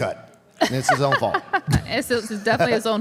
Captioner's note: Michelle laughs